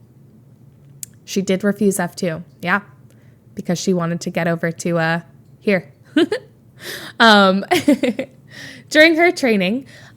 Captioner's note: Emma chuckles